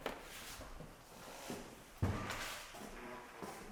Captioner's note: floor creaking